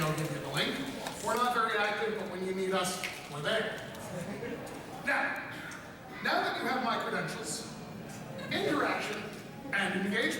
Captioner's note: snap